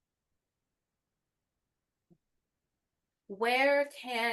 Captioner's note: silence